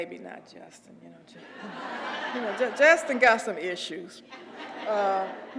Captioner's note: laugh